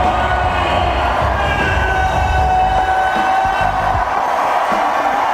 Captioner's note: audience cheering and applauding